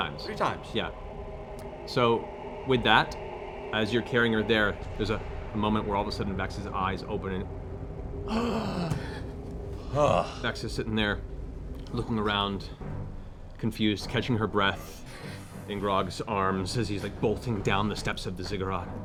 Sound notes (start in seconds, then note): 8.2 deep breath